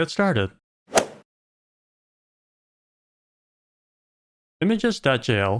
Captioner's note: golf ball hit sound